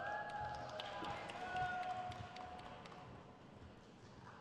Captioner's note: crowd claps